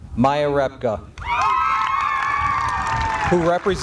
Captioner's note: applause